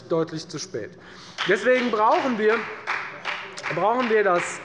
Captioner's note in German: Beifall der Abg